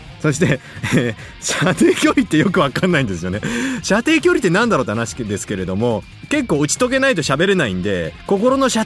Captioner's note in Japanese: 笑い